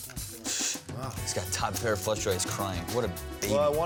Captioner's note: upbeat music; scoffs